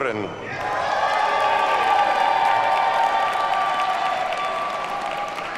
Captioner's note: audience cheers and applauds